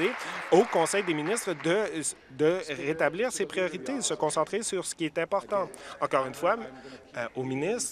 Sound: applause

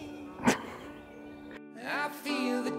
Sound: laughs

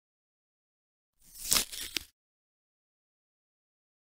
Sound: sound of package opening

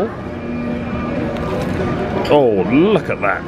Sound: crispy crunch

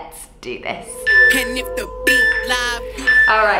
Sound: timer beeps

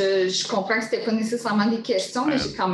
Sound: speaking in French

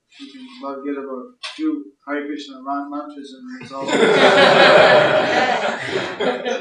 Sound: laughter

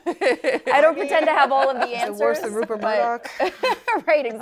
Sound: laughter

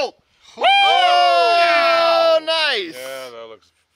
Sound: all shout

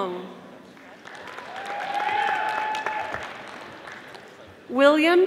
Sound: audience applauding

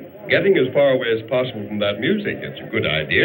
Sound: none

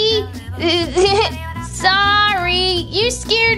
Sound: nervous Laughing

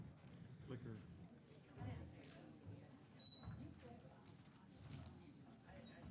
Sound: people chattering softly

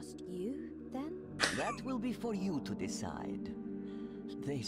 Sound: laughs

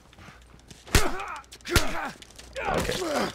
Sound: punches landing, grunting

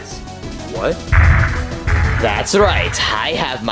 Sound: footsteps stomping

